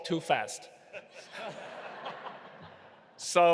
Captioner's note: audience laughing